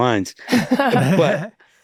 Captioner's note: all laughing softly